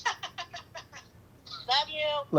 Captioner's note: laughs